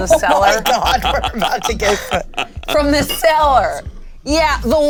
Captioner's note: players laughing